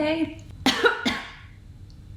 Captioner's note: coughs